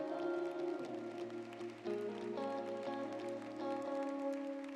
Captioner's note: audience clapping